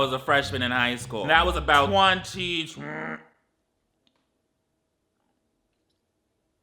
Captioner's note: grunts